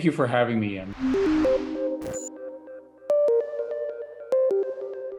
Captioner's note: soft electronic beeping